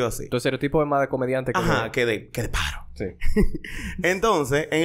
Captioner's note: laughs